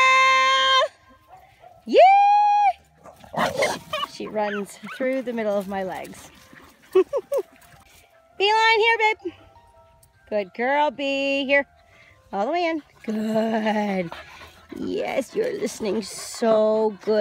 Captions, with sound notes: Ye! She runs through the middle of my legs. (laughs) Beeline, here babe! Good girl, Bee, here, all the way in. Good, yes, you're listening so good today, baby.